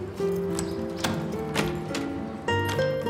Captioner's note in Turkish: Kapı açıldı